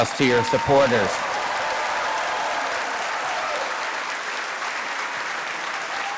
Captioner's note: cheers, applause